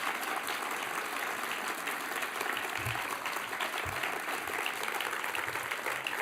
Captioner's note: applause